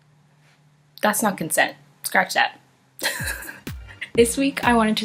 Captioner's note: laughs